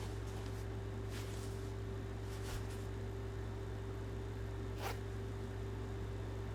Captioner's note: air conditioner humming continues